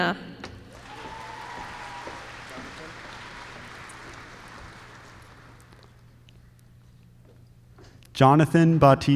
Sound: applause

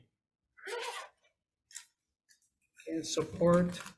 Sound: zipper zipping

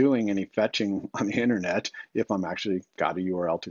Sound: chuckles

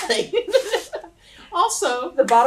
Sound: laughter

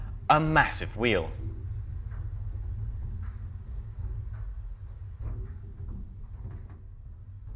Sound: whiiring cogs and low rumble

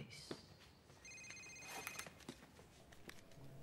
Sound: phone ringing

